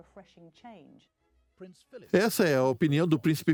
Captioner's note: voiceover